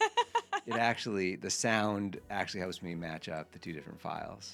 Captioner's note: laughs